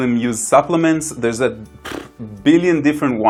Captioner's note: blows raspberry